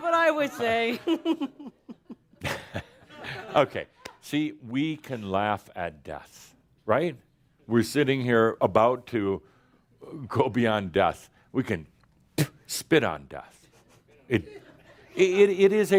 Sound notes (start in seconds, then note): 0.8 continues giggling; 12.3 spit!